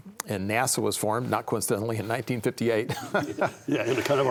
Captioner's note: laughs